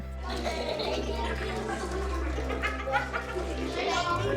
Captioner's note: children chattering